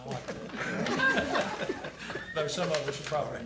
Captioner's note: attendees laugh